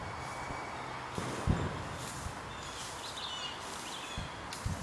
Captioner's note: footsteps pattering